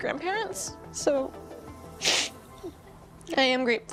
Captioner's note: sniffling